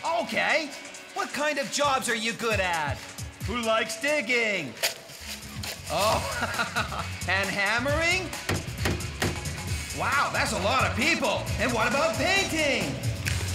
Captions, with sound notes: OKAY, WHAT KIND OF JOBS ARE YOU GOOD AT? WHO LIKES DIGGING? ( Shovel Scraping ) OH, AND HAMMERING? ( Tap! Tap! Tap! ) WOW, THAT'S A LOT OF PEOPLE! AND WHAT ABOUT PAINTING?